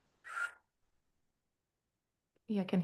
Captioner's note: karanga weka whistling